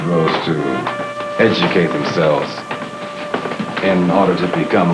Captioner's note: footsteps